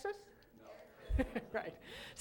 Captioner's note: laughter